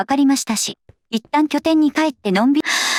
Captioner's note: gasps